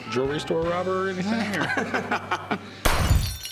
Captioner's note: laughs